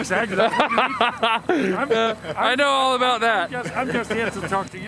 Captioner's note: laughing